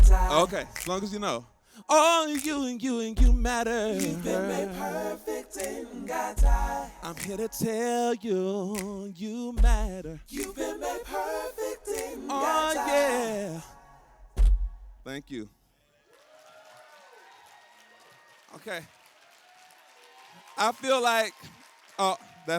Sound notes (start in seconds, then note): 16.0 applause